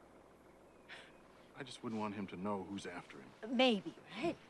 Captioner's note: scoffs